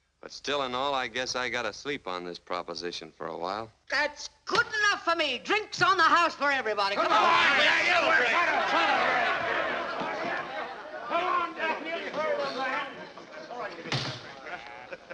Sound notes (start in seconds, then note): 7.0 cheering